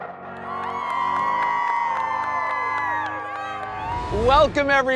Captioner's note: inspiring music; crowd cheering